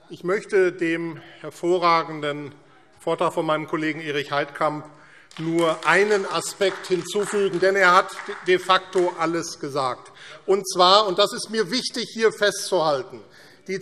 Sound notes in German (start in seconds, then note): 5.2 Beifall AfD